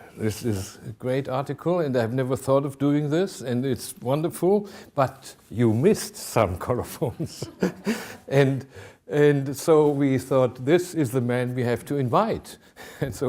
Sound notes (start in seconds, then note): 7.3 laughing